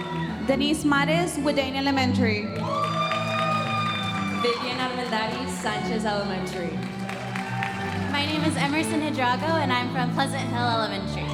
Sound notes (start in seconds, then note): 3.0 audience applauding; 7.0 audience applauding